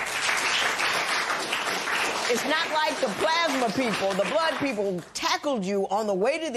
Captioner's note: applause